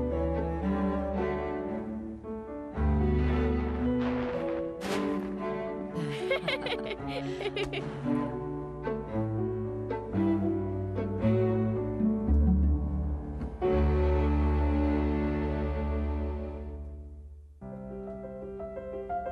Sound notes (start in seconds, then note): 3.9 laughing